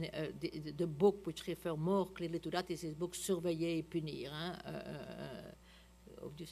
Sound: french

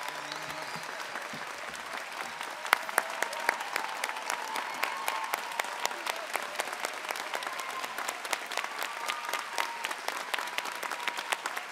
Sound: applause

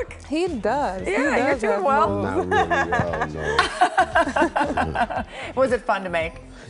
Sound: laughter

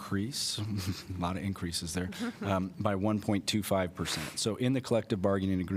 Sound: laughter

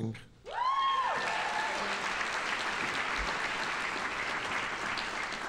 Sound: audience applauding

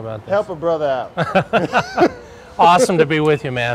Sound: laughing

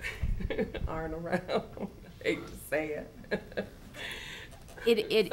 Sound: laughing

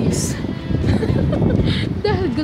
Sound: laughing

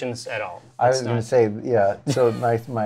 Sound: laughs

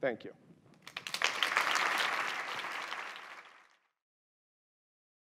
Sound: applause

